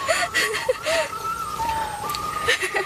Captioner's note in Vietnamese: tiếng cười